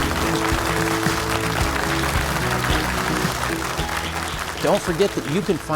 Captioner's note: audience applauding